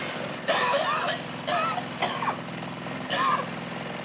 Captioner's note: coughing